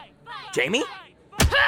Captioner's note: pained cry